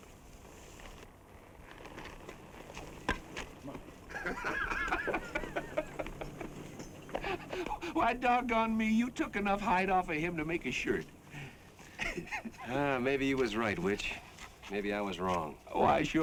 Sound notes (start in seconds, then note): 4.0 laughs; 11.8 chuckles